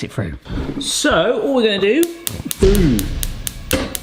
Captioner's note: hob clicks